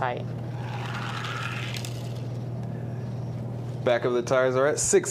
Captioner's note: toy car grating